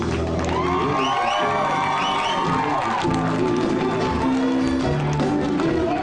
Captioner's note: audience applause and cheers